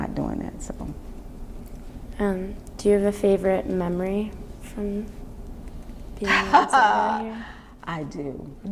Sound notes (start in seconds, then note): 6.2 laughs